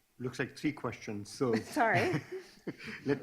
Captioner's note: laughs